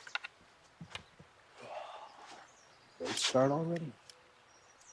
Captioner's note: sighs